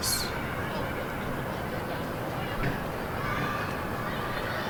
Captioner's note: distant children playing